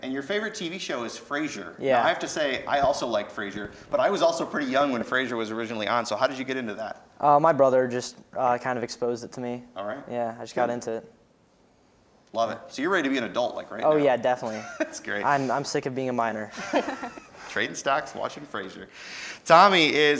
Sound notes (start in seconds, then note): 16.5 laughing